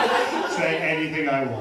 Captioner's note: laughter